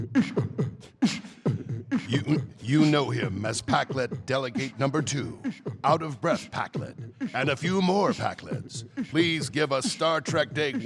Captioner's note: beat boxing